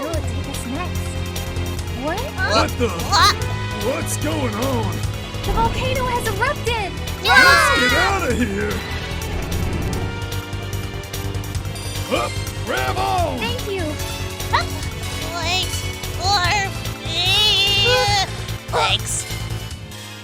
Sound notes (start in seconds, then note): 7.2 screaming; 15.3 panting; 18.7 inhales